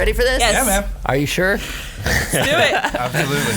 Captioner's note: laughs